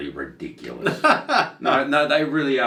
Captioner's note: laughing